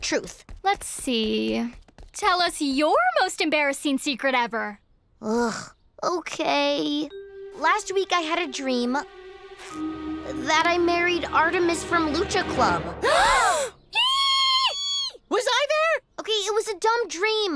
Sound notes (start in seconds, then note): 13.0 gasping; 13.9 squealing